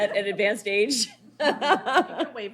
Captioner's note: laughs